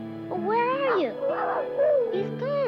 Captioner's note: Arrow barking